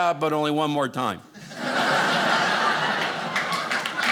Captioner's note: audience laughing; audience clapping